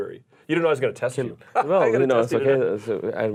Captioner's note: laughing